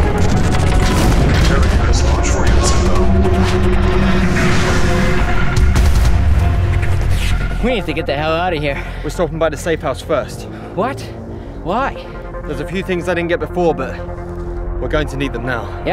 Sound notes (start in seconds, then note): 0.0 jets roaring